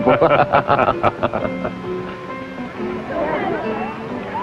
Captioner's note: both laughing